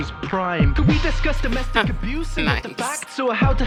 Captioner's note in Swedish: chuckles